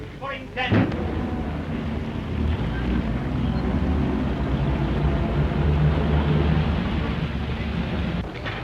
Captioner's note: vehicle noise